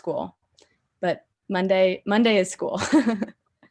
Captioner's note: laughs